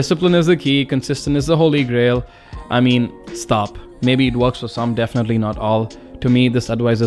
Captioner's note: sigh